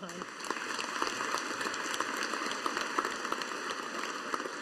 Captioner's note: audience applauding